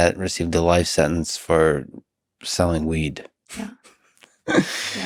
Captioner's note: laughs